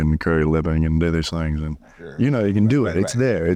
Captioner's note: Elvis style of speaking